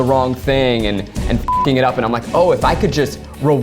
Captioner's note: beep